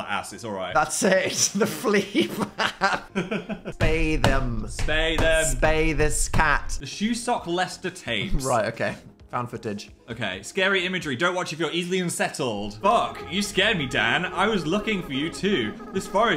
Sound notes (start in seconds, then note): 1.5 laughs; 2.9 Phil laughs